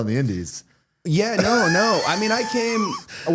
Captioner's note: Matt laughing